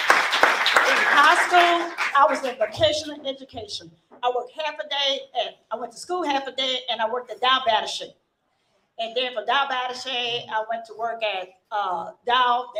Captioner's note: applause